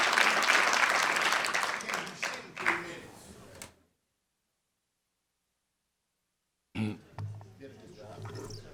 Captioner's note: applause